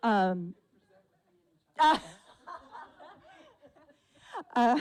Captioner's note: continued laughter from audience and presenter